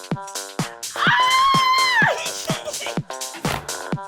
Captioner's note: person screaming; upbeat music